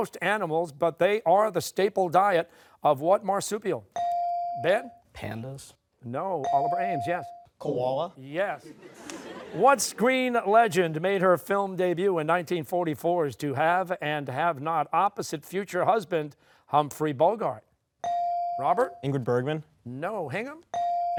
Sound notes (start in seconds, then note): 7.1 echoing; 8.6 laughter